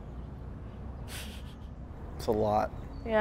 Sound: Jennifer laughs

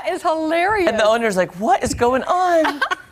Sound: laughter

